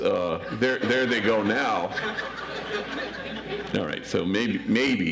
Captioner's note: audience laughs